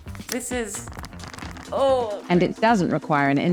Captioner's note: vacuum bag rustling